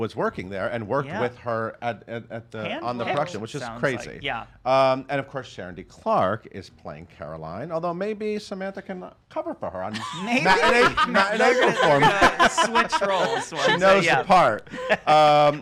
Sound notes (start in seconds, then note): 13.0 laughs; 14.1 chuckles